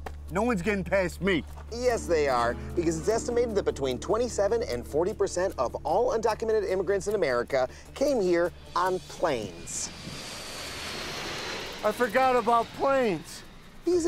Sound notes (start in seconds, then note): 9.7 plane passing